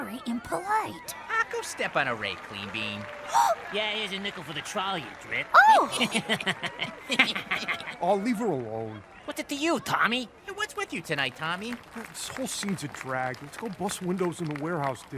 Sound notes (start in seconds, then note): 2.5 gasps; 5.8 all snickering